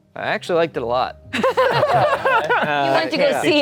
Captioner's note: everyone laughing